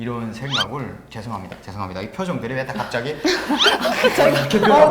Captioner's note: apologizing